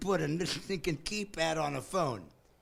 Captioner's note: laughing